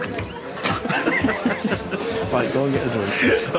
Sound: Adam laughs

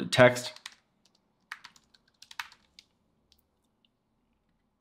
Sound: keyboard clicking

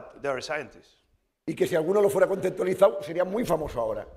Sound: speaking spanish

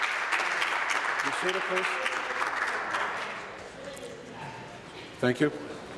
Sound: applause

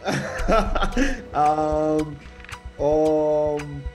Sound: laughter

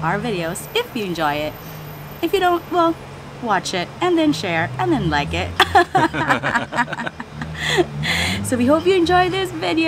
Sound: laughs

